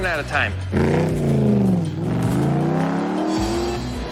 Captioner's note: engine revving